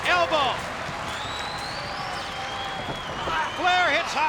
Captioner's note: spectators cheering and applauding